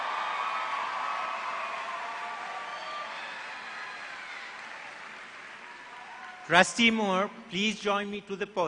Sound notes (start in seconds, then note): 2.8 applause